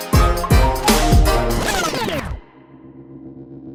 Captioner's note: vinyl scratch sound